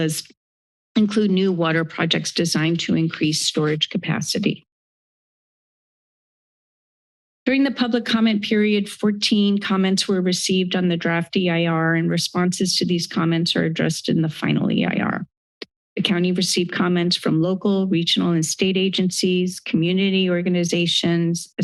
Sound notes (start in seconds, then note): none